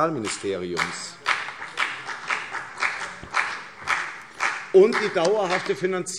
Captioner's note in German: Beifall CDU und vereinzelt BÜNDNIS 90/DIE GRÜNEN